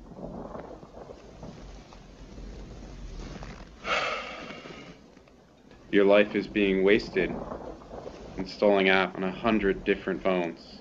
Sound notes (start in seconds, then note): 0.2 thunder rumbling; 3.8 sigh